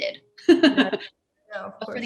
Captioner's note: laughs